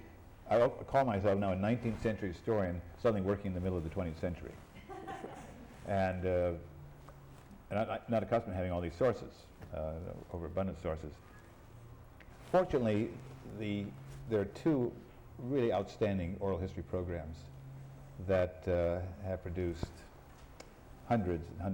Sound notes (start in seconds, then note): 4.7 laughs